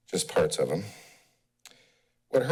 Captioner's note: pause